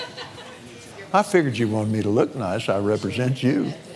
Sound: laughs

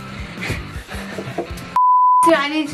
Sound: laughter

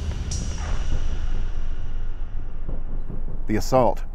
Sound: distant rumbling

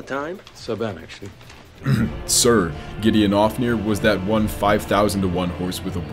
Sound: clears throat

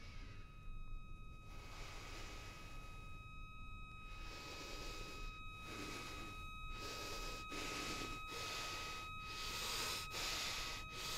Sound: heavily breathing

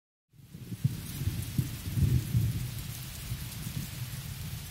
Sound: rain patters

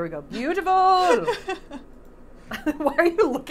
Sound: laughing; Safiya laughing

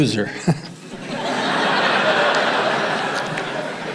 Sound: audience laughing

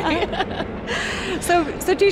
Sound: all laugh

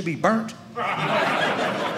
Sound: audience laughing

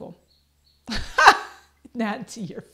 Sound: laughs

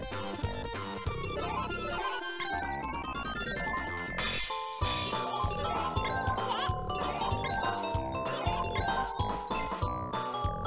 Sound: game sounds

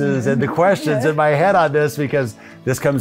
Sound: laughs

